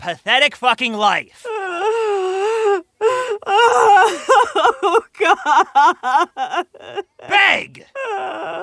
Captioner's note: still sobbing